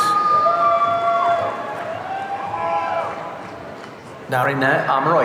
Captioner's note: audience cheering